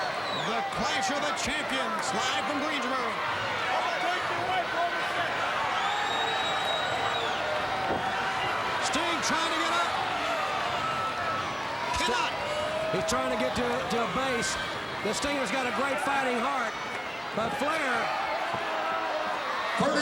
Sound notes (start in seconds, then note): 0.0 crowd cheering; 3.4 crowd cheering